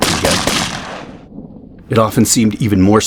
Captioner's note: sound of rifle shots